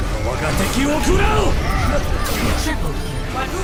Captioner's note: video game characters groaning